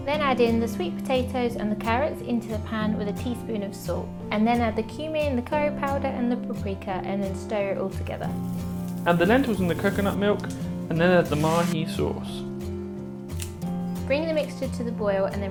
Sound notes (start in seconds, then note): 13.3 coriander rustling